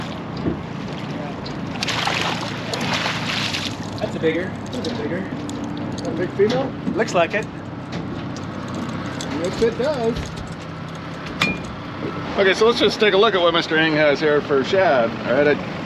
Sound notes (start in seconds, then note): 8.2 clattering